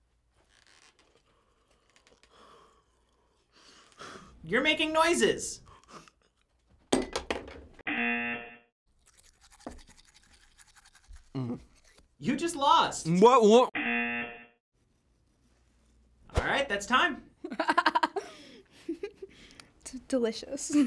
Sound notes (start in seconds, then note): 2.8 sighing; 7.8 buzzer; 9.2 brushing; 11.3 groans in disgust; 13.8 buzzer; 17.6 laughing